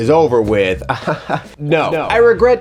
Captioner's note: laughs